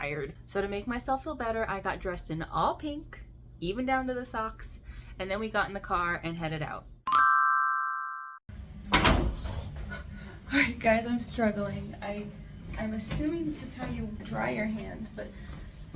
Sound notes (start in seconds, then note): 8.7 loud thud